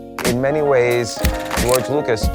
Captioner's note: film reeling